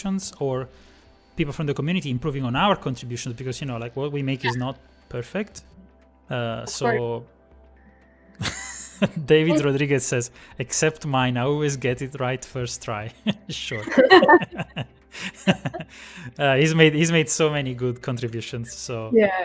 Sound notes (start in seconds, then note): 8.4 laughs; 15.2 laughter